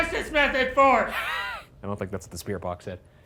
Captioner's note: Ryan laughing